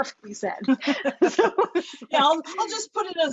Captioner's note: both laughing